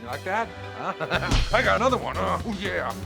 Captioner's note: laughs; punching sound